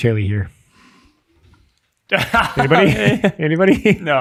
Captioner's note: innocent laughing